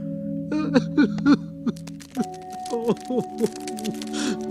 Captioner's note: Bing Bong sobs